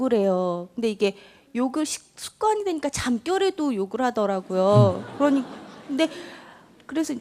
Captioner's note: audience Laughter